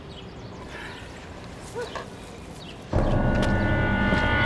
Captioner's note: sighing; dark, foreboding music